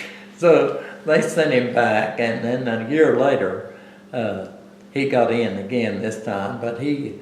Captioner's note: laughs